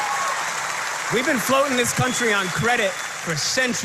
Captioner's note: applause